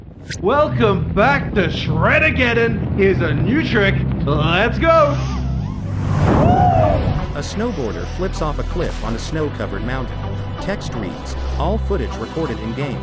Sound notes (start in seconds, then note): 6.4 snowboarder yelling; 7.3 techno music playing